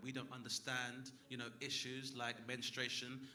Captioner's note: none